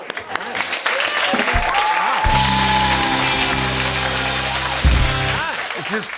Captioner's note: cheering and applause